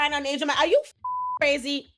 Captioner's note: beep